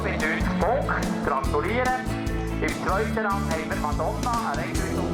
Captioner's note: man speaks in german on tannoy